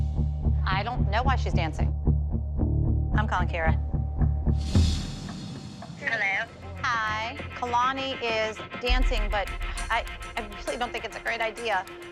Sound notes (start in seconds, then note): 5.7 on phone